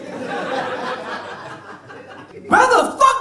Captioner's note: audience laughs